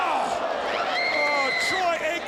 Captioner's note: Daffney screams